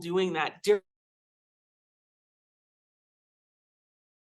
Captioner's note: audio cuts out